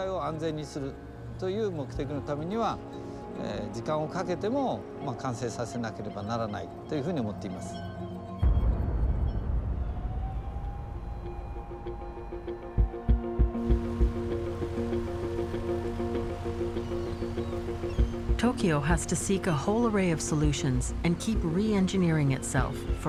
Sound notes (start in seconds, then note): 0.2 speaking Japanese; 7.0 siren wails; 14.5 birds crying